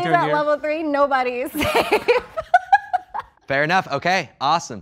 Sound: laughing

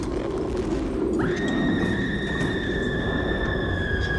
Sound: screaming

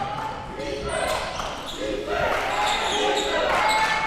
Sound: crowd cheering

